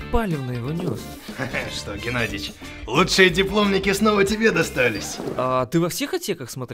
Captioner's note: giggles